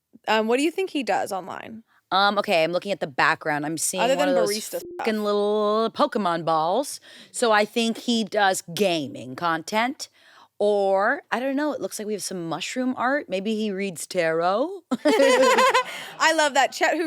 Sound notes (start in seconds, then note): 4.1 beep; 15.0 laughs